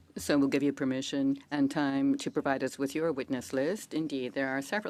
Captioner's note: speaking French